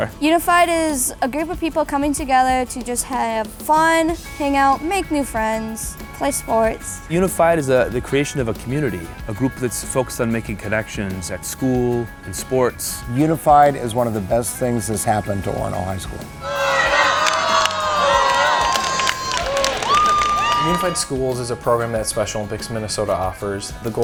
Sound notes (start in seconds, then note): 0.2 background music; 16.4 cheering; 20.6 background music